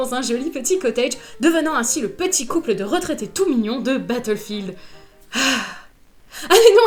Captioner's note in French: soupire